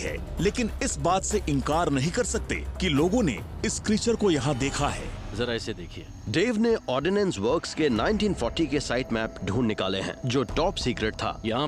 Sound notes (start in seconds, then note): 6.4 narrating